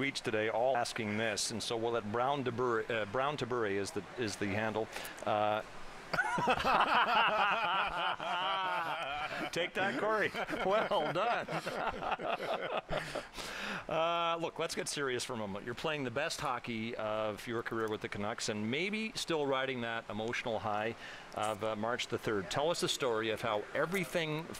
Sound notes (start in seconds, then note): 10.3 laughter